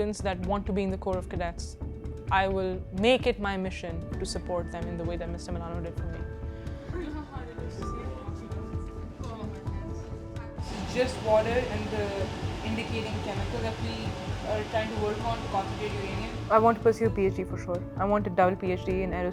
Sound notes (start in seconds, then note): 7.9 people talking